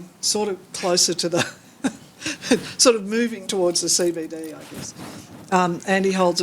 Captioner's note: laughs